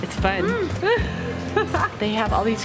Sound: laughing

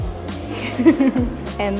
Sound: laughter

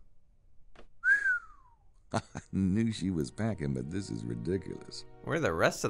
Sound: whistles

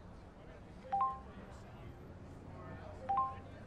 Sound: phone chimes

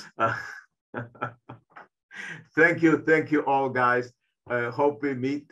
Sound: chuckling

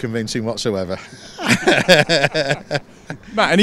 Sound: laughter

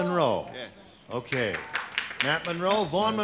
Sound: chatter

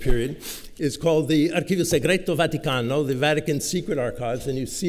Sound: italian

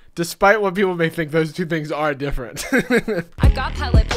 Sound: laughing

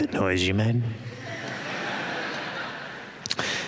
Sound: laughter

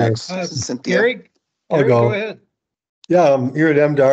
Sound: group chattering

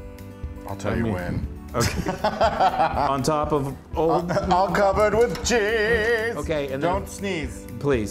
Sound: laugh

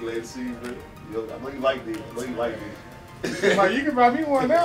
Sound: chuckles

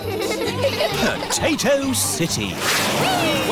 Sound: all giggling

